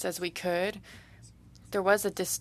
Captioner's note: speaking French